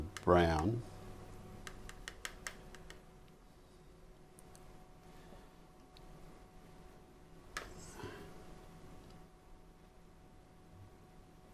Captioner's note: silence